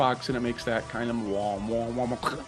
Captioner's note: imitates Xbox blooping